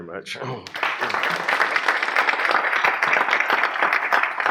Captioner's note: applause